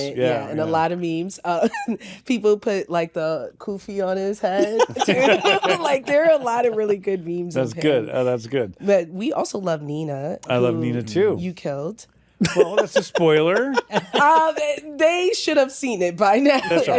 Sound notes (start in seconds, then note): 4.5 laughter; 12.4 laughter